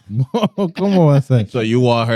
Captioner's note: laughing